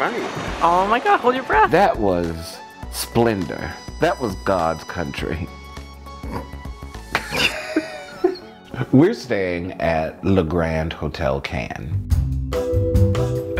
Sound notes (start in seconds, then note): 6.2 snorts; 7.1 laughs; 11.7 light music